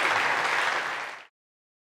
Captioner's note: applause